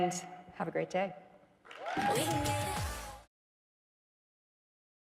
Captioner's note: audience cheering